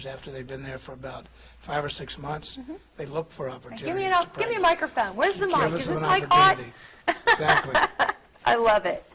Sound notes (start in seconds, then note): 7.1 laughing